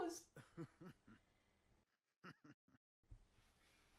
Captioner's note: chuckling